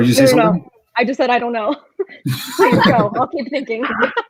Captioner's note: laughs